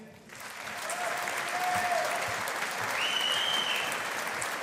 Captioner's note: audience applauding